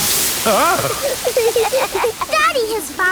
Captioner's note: laughing